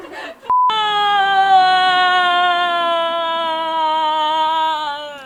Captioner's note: Heult